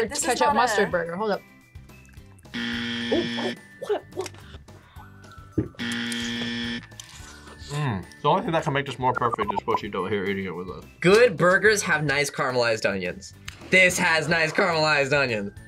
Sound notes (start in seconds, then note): 2.5 buzzer; 5.9 buzzer